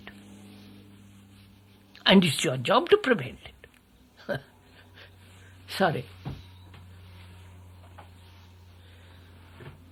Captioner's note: laughs